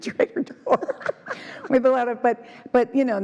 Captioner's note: laugh